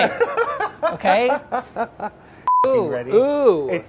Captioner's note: laughs